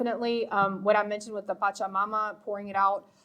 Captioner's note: speaking foreign language